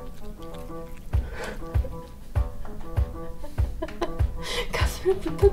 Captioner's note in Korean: 웃음